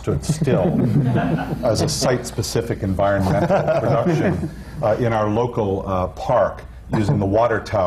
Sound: laughter

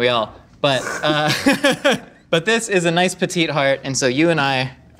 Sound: laughing

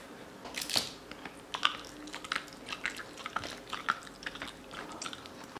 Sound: munching

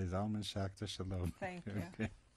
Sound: laughs

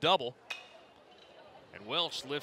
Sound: ball hitting bat

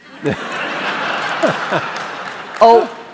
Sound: laughter

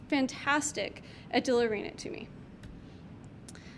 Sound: clicks mouse

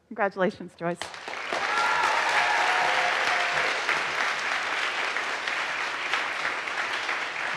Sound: audience applauds; audience cheers

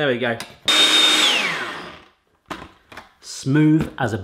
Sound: blender whirs

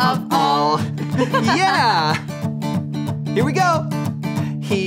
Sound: girl giggles

